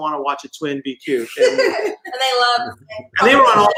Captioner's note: all laugh